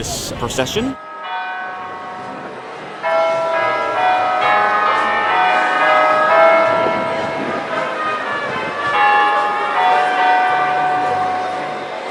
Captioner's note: bells toll